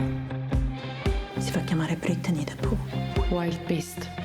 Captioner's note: speaking Italian